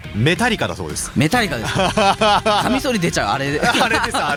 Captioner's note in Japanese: 笑い